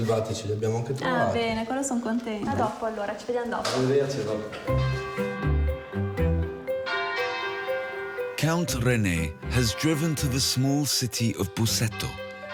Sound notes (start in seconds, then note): 1.2 speaks in foreign language; 4.9 upbeat music